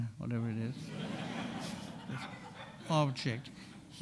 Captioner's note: audience laughing